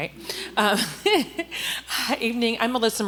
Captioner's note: chuckles